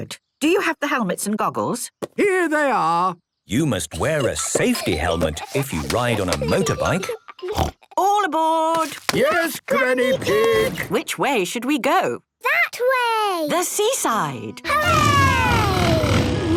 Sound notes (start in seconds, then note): 7.5 snort